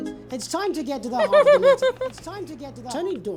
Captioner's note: chuckles